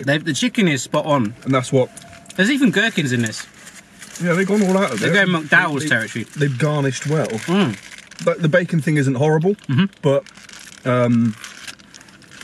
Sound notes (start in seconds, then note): none